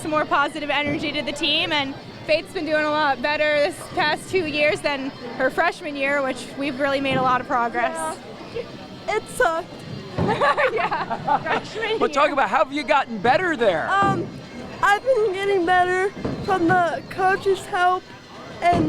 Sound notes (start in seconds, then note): 10.1 laughing